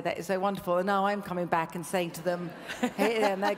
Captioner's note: laughs